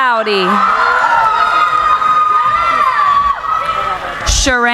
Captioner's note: cheering